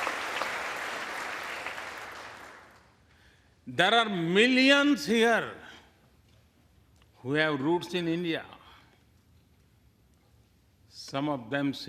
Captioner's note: applause